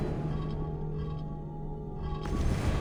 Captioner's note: none